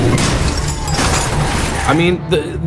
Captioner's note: cars smashing